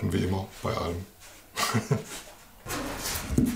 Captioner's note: laughter